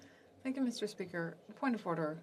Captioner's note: speaking French